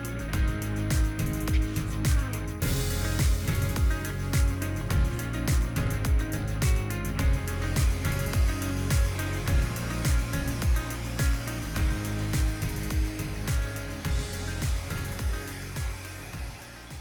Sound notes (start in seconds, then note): 7.9 blower buzzing